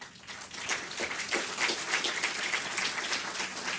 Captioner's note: audience clapping